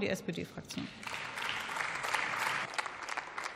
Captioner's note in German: Beifall